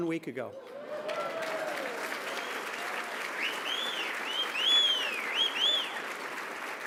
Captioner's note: applause